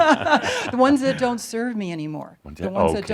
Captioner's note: they laugh